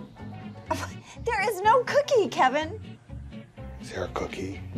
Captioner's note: scoffs